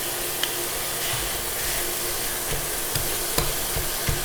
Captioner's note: sizzling